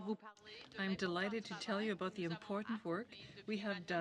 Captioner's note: speaking in french